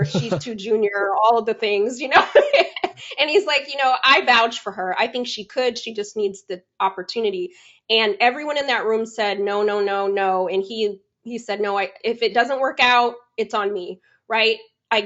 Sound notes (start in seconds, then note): 2.7 laughs